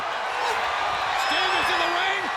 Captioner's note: audience cheers